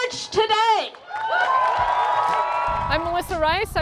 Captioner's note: cheering